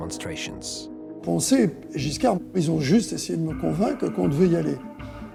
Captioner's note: speaking in French